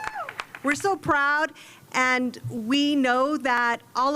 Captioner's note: cheers and applause